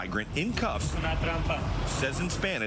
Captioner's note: speaking in spanish